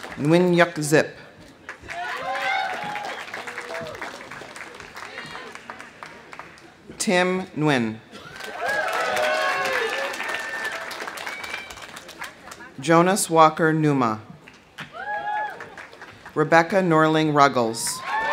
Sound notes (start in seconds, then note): 0.0 audience applauding; 0.0 audience cheering; 1.6 audience applauding; 1.8 audience cheering; 8.2 audience cheering; 8.2 audience applauding; 14.9 audience cheering; 14.9 audience applauding; 17.9 audience cheering; 18.0 audience applauding